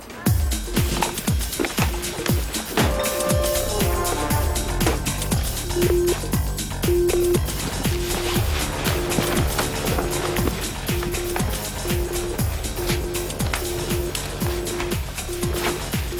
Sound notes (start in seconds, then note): 0.3 exciting music; 6.1 beeping